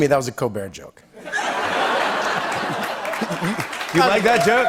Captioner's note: laughter